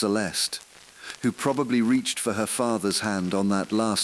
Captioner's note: exhale; voice trembling